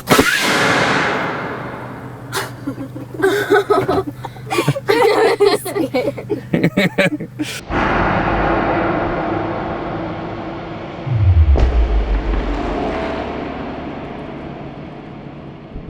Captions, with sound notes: [cannon fires] [laughs loudly] - I wanna see it. [cannon fires]